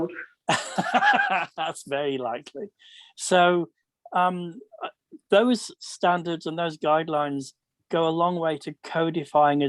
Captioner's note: laughs